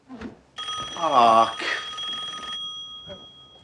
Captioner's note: phone ringing